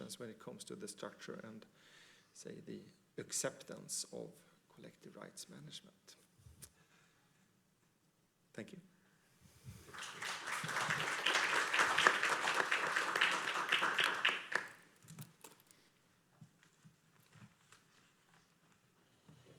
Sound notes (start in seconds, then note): 9.7 applause